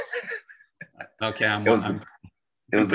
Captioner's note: laughing